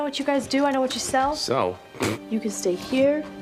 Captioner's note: scoffs